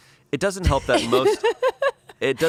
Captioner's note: laughs